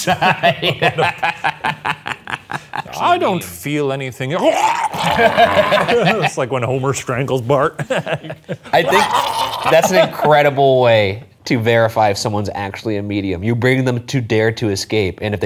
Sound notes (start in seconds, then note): 0.0 laughing; 4.4 imitates choking; 8.8 imitates choking